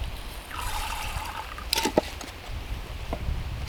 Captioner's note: splashing